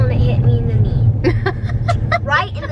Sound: laughs

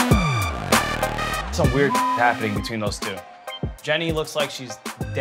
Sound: beep

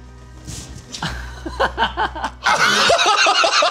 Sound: laughing

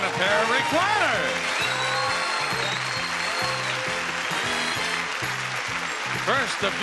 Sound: audience applauding; upbeat music

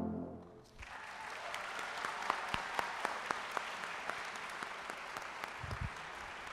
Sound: audience cheering and applauding

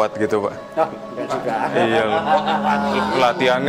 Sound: laughing

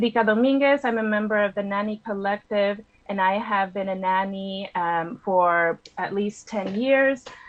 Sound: speaking spanish

